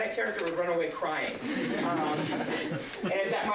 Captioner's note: laughter